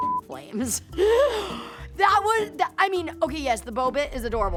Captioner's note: gasps